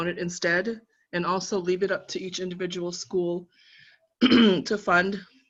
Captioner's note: coughing